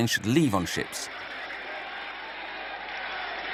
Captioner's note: Arabic spoken audio